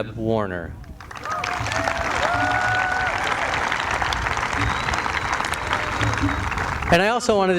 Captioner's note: applause